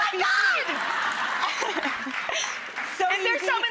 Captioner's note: audience laughs